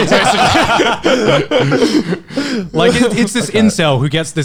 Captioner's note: laughing